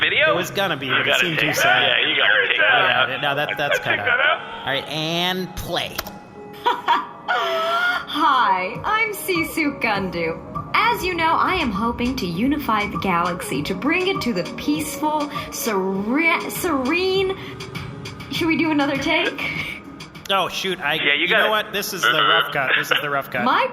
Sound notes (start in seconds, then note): 6.6 laughs